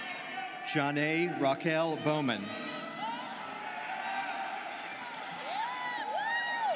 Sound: students cheering

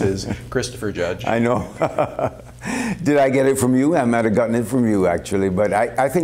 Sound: laughter

